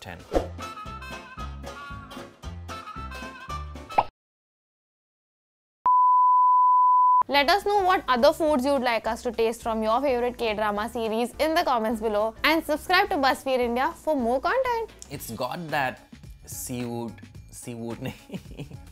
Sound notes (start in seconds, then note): 0.0 upbeat music; 3.8 bubble popping; 18.1 chuckling